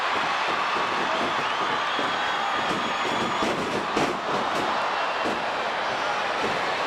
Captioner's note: crowd chattering; stage clattering